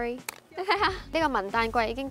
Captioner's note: laughing